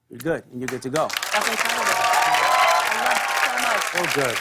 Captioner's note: cheers and applause